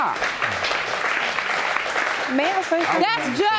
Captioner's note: audience applauding